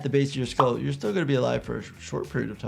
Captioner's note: graphic pops